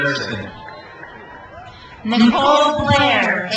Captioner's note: crowd cheers